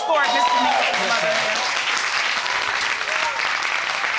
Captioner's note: audience cheering